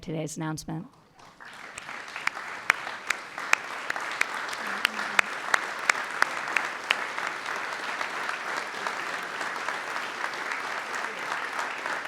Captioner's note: applause